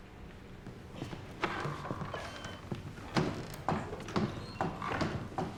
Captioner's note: door opens, closes